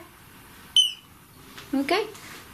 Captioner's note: beep